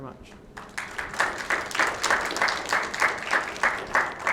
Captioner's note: congregation applauding